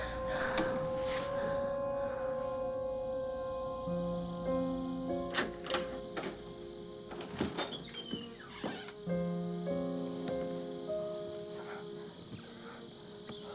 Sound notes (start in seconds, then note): 0.0 Charlie crying; 4.9 crickets chirping; 8.2 doors creaking; 8.9 somber music